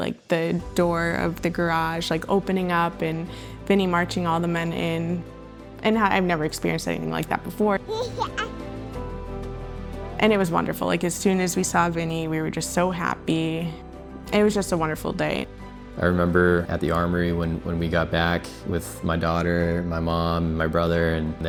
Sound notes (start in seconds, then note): 7.9 baby giggling